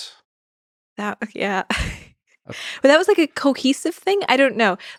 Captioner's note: laughs